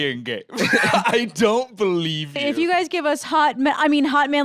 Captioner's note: laughs